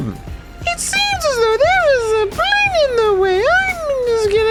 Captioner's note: high pitched voice